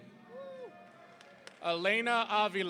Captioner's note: audience cheering